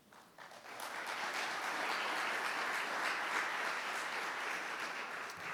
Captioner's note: audience clapping